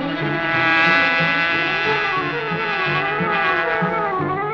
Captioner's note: car engine roars